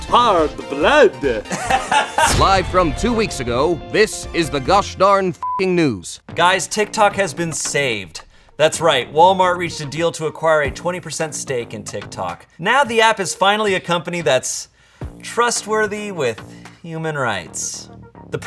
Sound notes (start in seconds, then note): 1.2 laughs; 5.4 beep